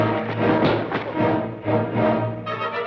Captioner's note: thud